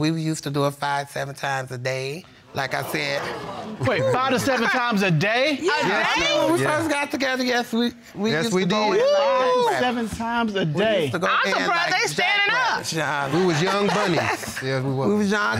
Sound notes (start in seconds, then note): 2.9 audience exclaiming; 8.8 exclaiming